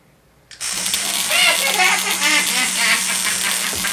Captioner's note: buzz; irritating laugh